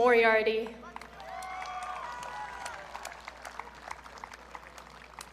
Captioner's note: audience cheering